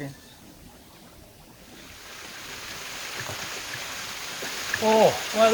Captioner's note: rainfall